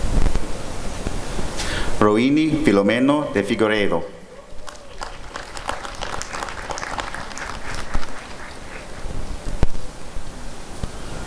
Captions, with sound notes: Rohini Filomeno De Figueiredo [applause and cheering]